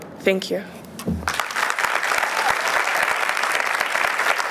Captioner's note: applause